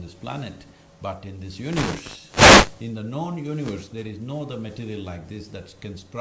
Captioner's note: audio disturbance